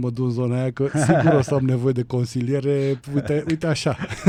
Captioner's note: laughter